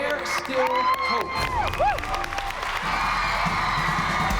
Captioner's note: cheering